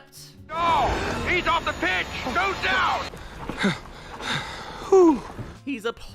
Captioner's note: heavy breathing* Hoo